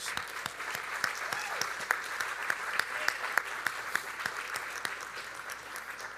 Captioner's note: audience applauding; audience cheering